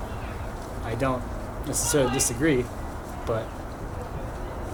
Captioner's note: laughing